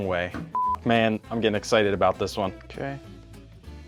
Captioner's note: beep